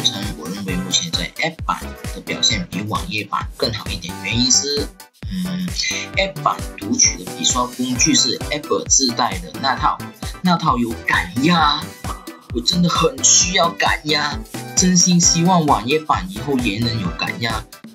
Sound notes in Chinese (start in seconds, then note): 12.0 痛哭